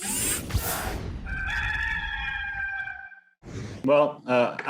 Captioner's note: rooster cackles